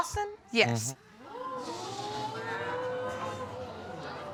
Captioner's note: audience exclaiming